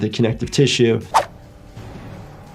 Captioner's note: air whooshing; tense music